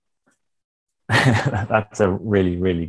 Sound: chuckling

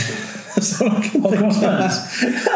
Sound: laughing

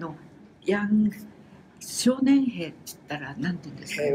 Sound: foreign language

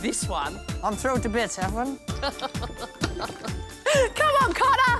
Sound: chuckles

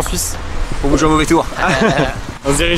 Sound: laughes

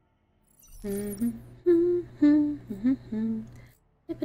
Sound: humming

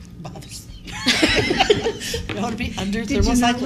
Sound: laughter

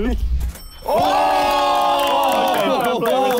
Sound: clapping

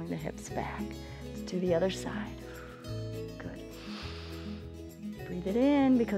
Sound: inhales

